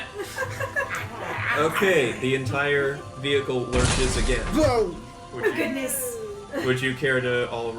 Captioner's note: growls